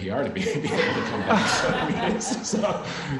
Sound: audience laughs

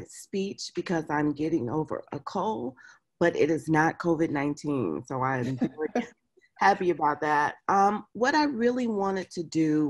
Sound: laughs

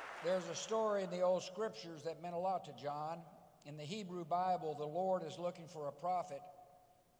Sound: applause

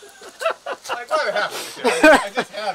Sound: laughing

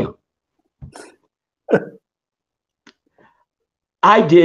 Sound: laughs

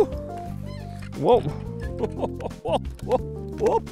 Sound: laughs

